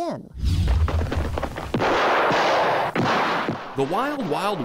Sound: gunshots

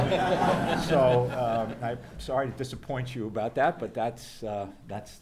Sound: background laughter

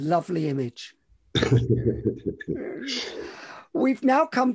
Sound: both laugh

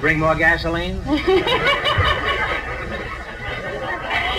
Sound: audience laughs

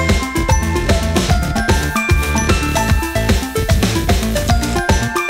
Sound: spraying

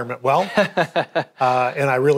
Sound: laughs

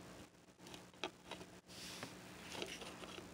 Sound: sniff

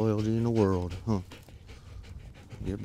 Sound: dog panting

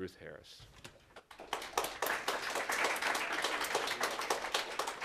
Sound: applause

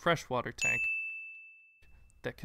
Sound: bell rings

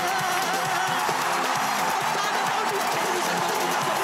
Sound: crowd cheering

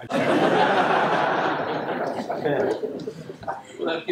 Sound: laughter

